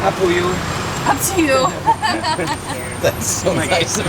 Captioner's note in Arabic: ضحك